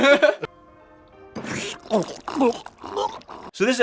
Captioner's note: gulp, gulp, gulp